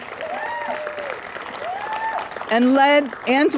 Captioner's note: applause